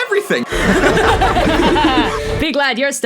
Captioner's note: evil laughter